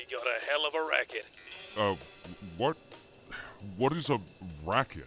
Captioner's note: sigh